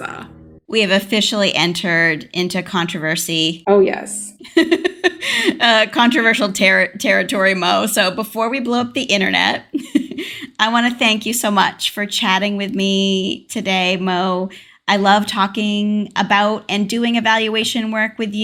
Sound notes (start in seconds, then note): 4.4 laughter